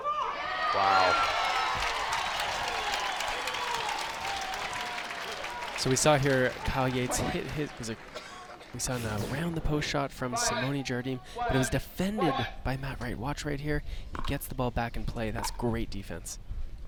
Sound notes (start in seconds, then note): 0.6 crowd applauds